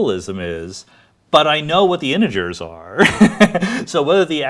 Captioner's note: laughs